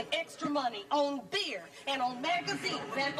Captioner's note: audience laughing